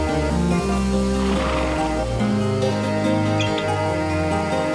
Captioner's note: horse snorts